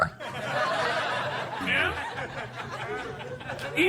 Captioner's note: audience laughter